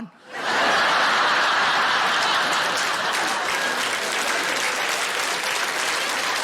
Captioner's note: audience laughing and applauding